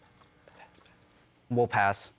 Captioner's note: whispers